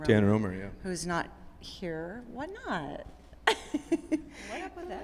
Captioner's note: laughs